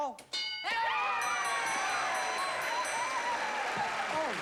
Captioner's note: cheering